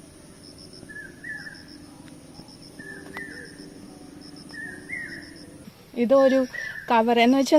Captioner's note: birds chirping